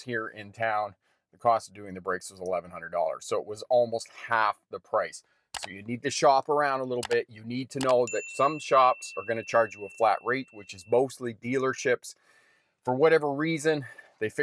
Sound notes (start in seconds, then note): 5.5 mouse clicking; 7.9 bell dings